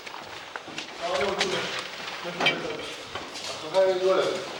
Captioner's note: Arabic spoken audio